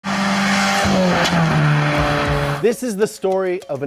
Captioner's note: engine running